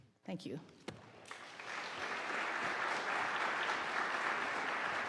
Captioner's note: audience applauding